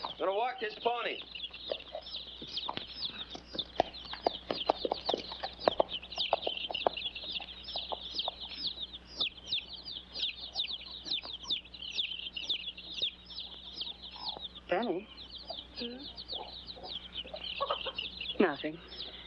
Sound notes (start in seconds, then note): 2.1 chicks chirping; 2.1 hooves trotting away; 8.7 chicks chirping